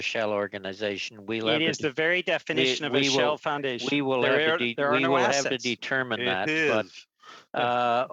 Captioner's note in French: voix de l'interprète